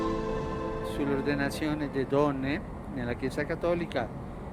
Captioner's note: in Italian